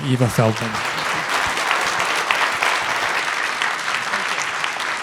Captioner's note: audience clapping